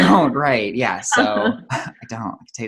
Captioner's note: laughs